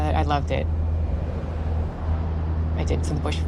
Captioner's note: rumble of engine